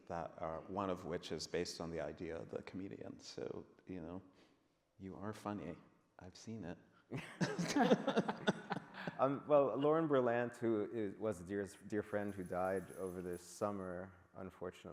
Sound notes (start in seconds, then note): 7.2 men laughing